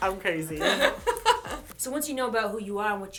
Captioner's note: laughter